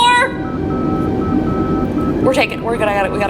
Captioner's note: in-game beeping